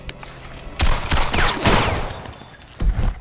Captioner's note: gun shots